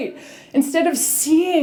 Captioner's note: none